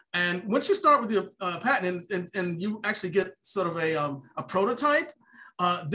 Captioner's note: none